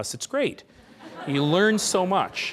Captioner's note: laughing